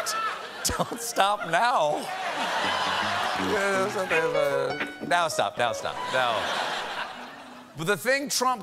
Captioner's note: laughter; band playing